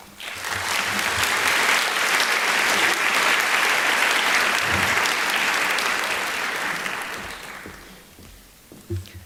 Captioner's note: applause